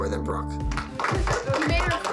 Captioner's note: clapping